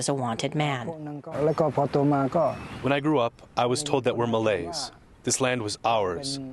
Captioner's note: through translator